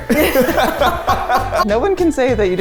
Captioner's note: laughing